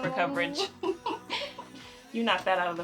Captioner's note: Sarah laughing